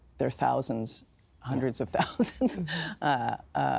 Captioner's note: laughing